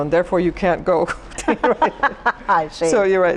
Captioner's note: laughing